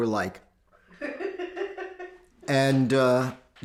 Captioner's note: interviewer laughing